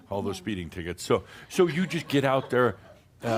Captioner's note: some chuckles